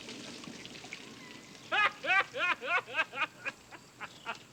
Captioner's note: laughing